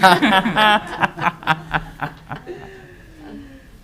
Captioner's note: speakers laughing